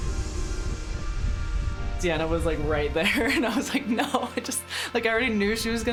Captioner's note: laughing